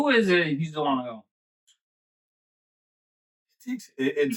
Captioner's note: speaking In Foreign Language